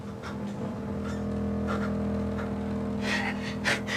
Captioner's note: suspenseful music; Billy panting